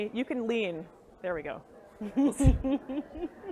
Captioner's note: laugh